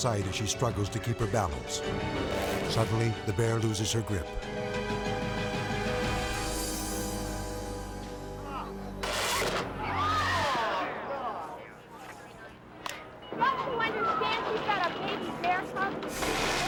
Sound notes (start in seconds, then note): 9.0 electricity zaps; 9.1 bystanders shout